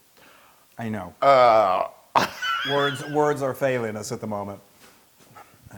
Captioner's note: laugh